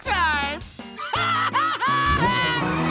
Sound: laughing

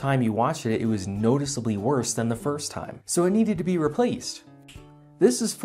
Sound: snap

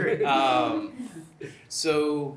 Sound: laughter

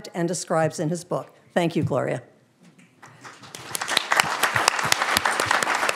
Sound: audience applauding

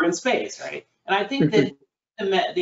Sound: laughs

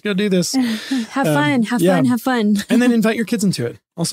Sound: laughs

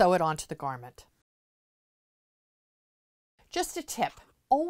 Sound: no Sound Present

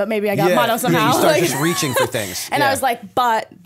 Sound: chuckle

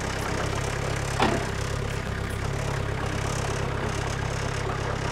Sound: engine rumbling

